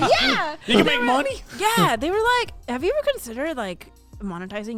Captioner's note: men laughing